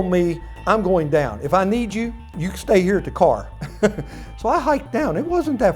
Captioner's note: laughing